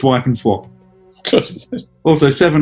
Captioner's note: giggling